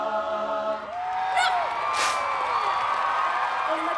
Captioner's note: cheering, applause